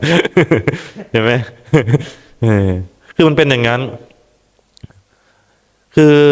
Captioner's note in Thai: เสียงหัวเราะ